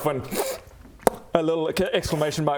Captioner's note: pop!